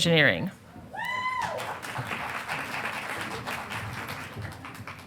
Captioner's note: audience applauding